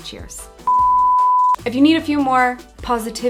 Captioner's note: computer beeps